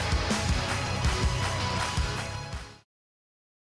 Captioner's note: cheers and applause